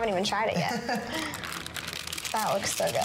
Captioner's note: chuckles